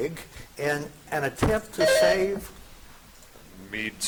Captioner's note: buzzer chiming